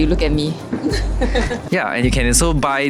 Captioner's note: DY mum laughing in background